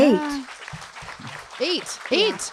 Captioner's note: audience clapping